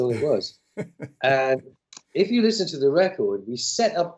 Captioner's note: laughter